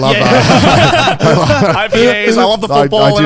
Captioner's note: all laughing